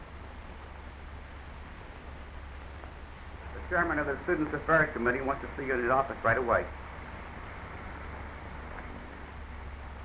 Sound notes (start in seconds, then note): none